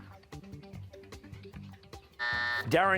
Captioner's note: buzzer